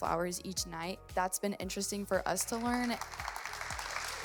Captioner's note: audience applauds